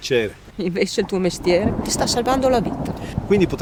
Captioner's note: thunder